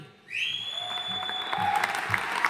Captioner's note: attendee whistling; audience cheering and applauding